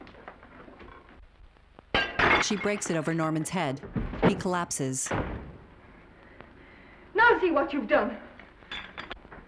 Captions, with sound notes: [plate smashing] [loud thud] Now see what you've done!